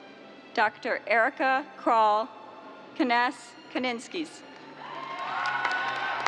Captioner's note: cheers and applause